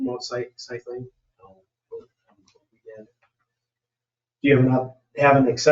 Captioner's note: speaks distantly